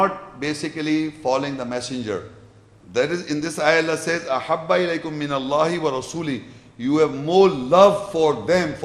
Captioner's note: Arabic